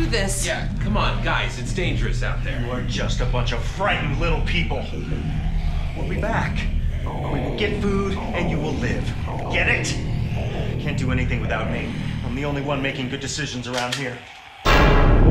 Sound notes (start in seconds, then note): 4.5 zombie growls outside